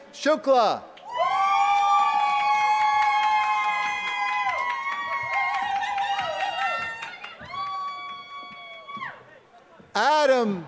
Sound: applause

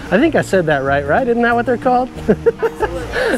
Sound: laughs

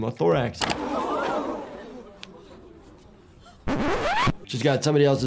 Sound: crowd clamors; mouse clicks; record scratches

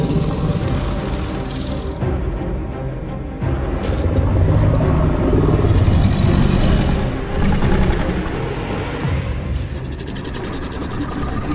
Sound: Scorpius Rex growls

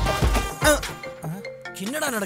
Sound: phone rings

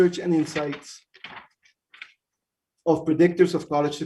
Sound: paper rustles

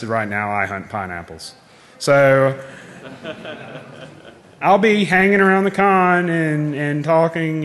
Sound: laughing

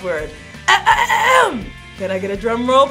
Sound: clearing throat

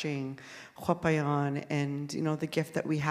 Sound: speaking in Sk1wx1wu7mesh

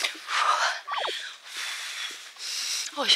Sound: deep breaths

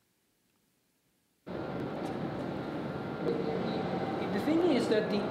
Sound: white noise

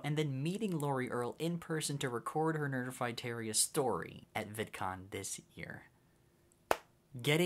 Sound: whack

